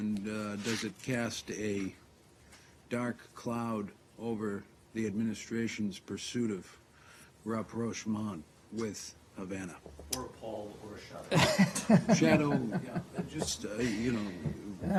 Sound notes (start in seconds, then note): 11.3 laughter